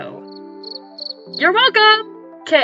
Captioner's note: cricket sound